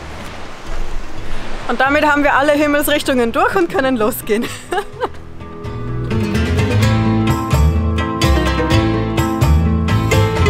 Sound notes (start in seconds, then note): 4.4 laughing